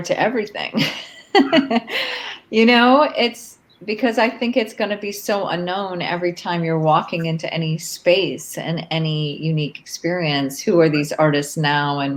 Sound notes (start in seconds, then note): 0.6 laughs